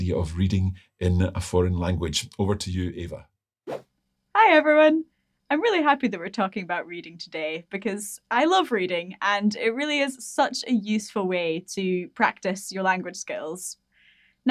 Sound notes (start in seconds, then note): 3.6 screen whooshing